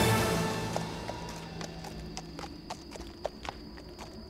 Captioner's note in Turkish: At nalı sesi